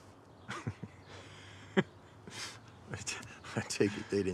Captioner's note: Abe and Isaac laugh